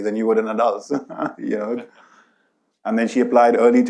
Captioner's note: laughs